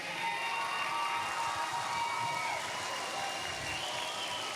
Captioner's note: cheers, applause